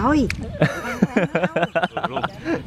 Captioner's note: laughing